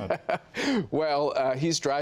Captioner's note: laughter